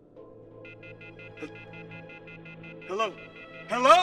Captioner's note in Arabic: صوت صفير